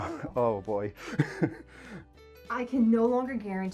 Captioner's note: laughs